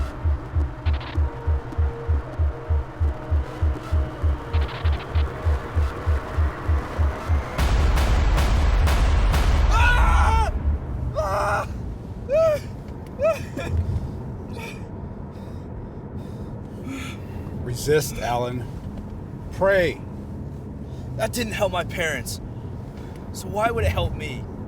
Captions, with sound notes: (intense music continues) (Alan screaming) - Resist, Alan. Pray. - That didn't help my parents, so why would it help me?